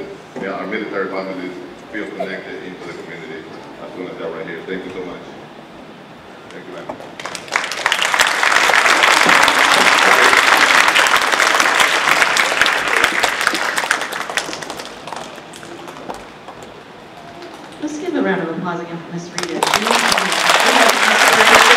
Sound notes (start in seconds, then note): 7.6 audience applauding